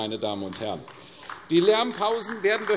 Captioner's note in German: Beifall AfD